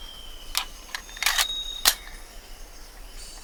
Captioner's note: gun clicks